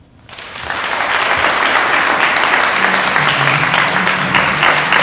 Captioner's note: applause